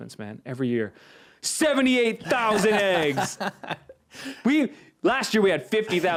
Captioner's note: laughing